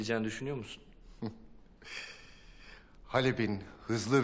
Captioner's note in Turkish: Gülme sesi